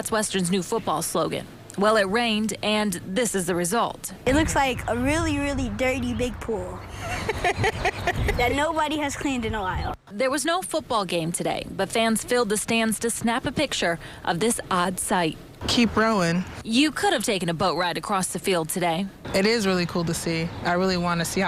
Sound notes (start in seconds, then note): 6.9 mom laughs